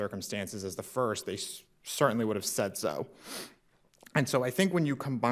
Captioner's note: sniffs